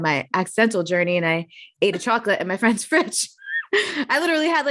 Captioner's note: chuckling